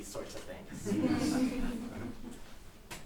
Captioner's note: audience laughing